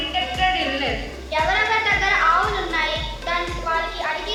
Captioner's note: non-english speech